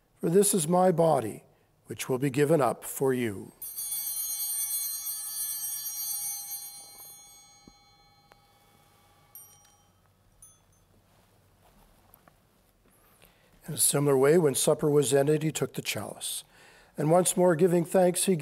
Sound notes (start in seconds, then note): 3.6 bell ringing